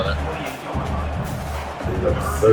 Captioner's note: crowd Noises